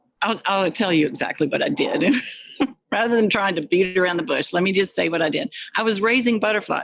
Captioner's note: laughs